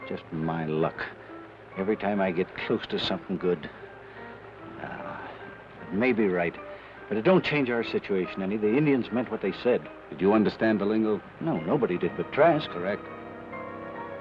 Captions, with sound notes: - Just my luck. Every time I get close to somethin' good... (sighs) You may be right, but it don't change our situation. The Indians meant what they said. - Did you understand the lingo? - No, nobody did but Trask. - Correct.